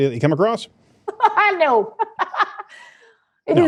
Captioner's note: laughing